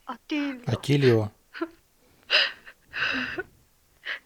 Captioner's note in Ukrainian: плаче жінка